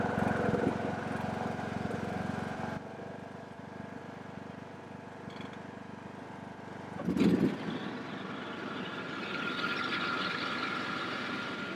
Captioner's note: engine sounds